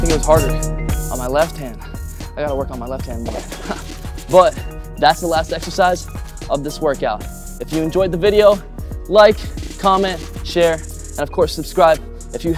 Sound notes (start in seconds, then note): 3.3 chuckles